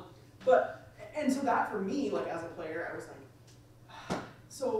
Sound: sighs

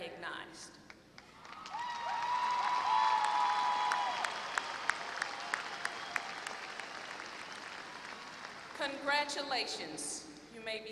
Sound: applause

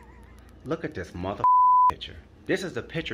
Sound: laughing; beeps

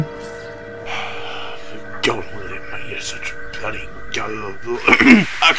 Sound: sigh; ahem

